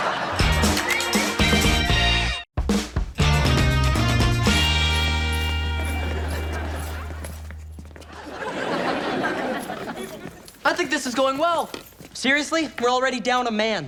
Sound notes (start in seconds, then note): 0.3 upbeat music; 5.4 audience laughs